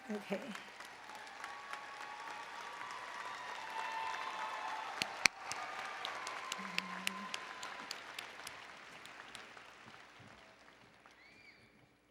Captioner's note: applause and Cheering